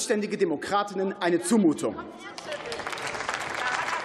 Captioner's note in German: Beifall